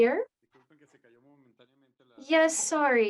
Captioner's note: speaking in Spanish